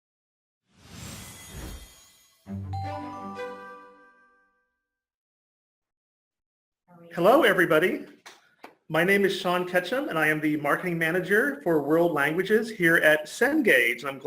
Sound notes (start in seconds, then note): 0.7 logo whooshes; 2.4 cheery orchestral music